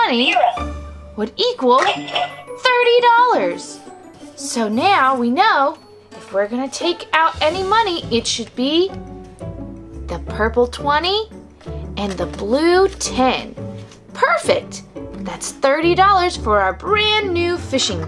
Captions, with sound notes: (register clicks and rings) 30 dollars. So, now we know if we're gonna take out any money, it should be the purple 20 and the blue 10. Perfect, that's 30 dollars for our brand new fishing boat.